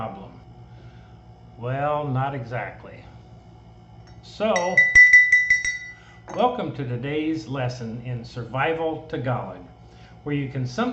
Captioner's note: rings bell